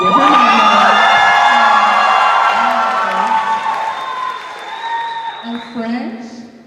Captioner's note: cheers